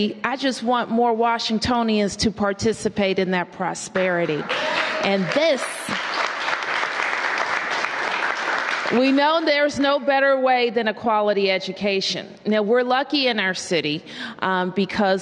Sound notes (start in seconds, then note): 4.2 applause